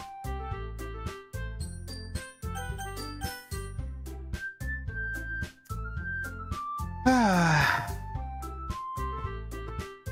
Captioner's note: sighs